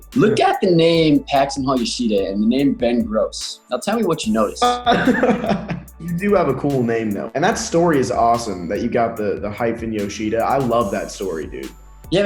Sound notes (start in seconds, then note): 4.6 Jaren laughing